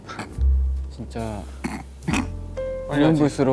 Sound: haha

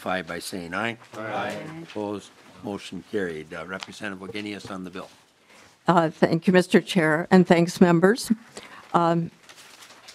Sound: chorus of ayes

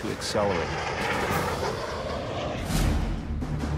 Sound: planes roaring

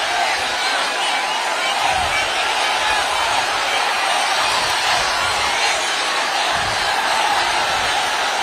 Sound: applause

